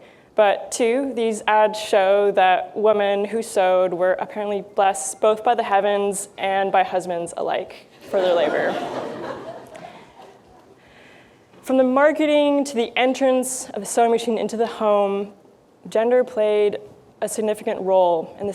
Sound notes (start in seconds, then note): 8.0 laughter